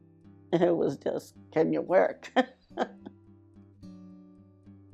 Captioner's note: laughs